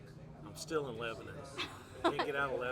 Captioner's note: laughs